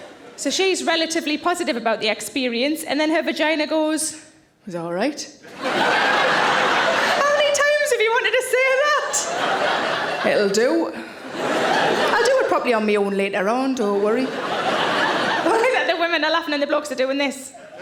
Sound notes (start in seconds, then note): 5.4 audience laughing